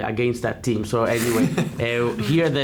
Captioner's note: laughing